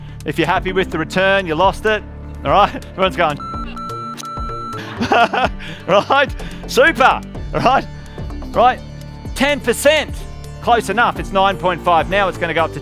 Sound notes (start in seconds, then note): 4.8 laughing